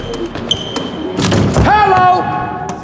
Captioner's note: dunk sound